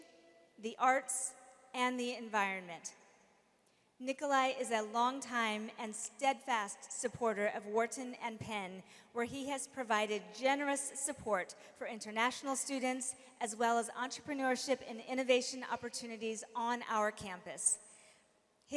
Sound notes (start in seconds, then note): none